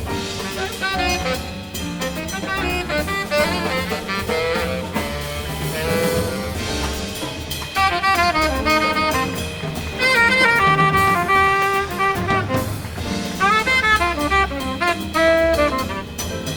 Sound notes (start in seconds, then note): 8.2 smooth cool jazz music; 9.5 audience applauds